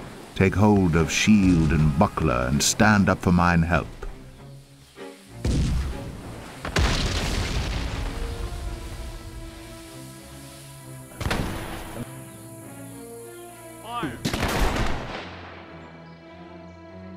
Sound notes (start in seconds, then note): 4.1 shots